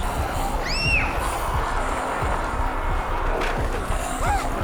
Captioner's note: dramatic music; child screams